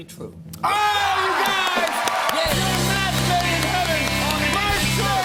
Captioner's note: cheers and applause